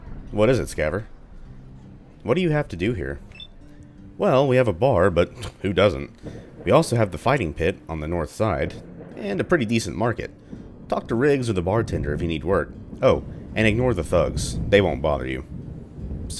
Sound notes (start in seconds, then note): 6.3 thunder; 10.6 thunder